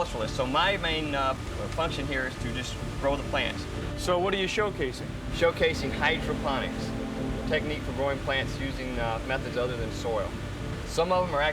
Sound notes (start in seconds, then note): none